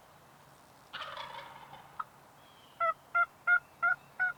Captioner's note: turkey gobbles